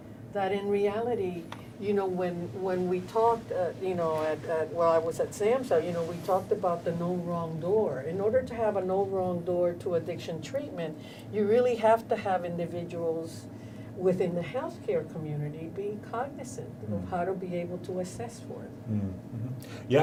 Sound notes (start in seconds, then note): none